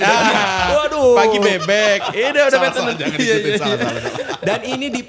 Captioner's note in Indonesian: tertawa